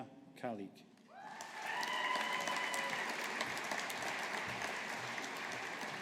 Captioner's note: audience applauding